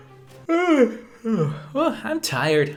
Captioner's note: yawn